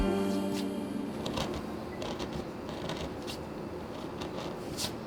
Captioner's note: wood scraping